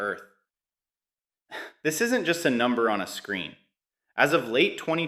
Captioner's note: sighs